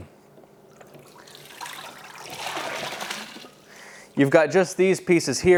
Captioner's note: water splashing